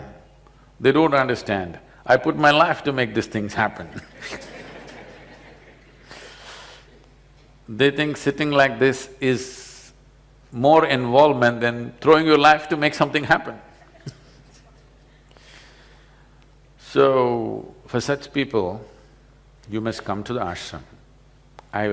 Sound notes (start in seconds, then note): 6.8 laughter; 13.8 laughs